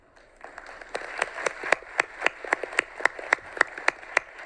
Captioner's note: audience clapping